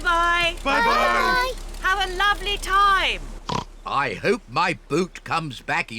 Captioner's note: oinks